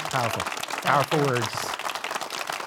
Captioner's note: audience clapping